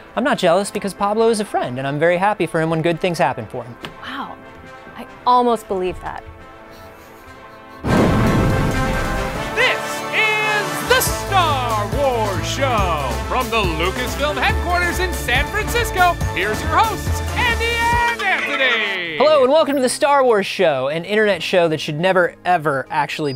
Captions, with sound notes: I’m not jealous because Pablo is a friend and I’m very happy for him when good things happen for him. Wow. I almost believed that. [Under breath] No. This is The Star Wars Show! From the Lucasfilm headquarters in San Francisco, here’s your hosts, Andi and Anthony! Hello and welcome to the Star Wars Show, an internet show that should never, ever actually